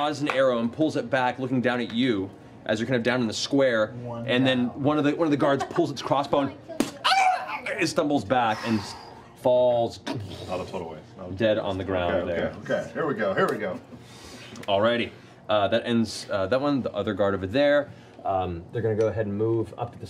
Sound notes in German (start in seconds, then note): 7.0 kreischt